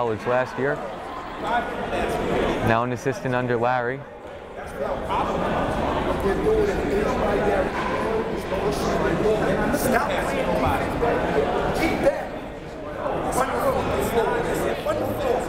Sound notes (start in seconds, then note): 7.4 crowd murmuring